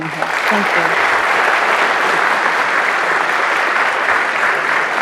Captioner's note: audience applauds